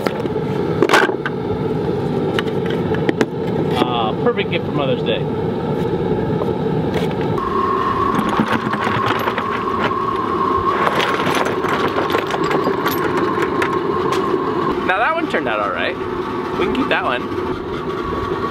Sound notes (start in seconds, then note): 7.4 fire roaring; 8.9 metal clinking